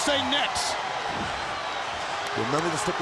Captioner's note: crowd cheering; crowd chatter